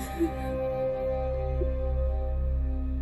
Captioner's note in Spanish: Sollozos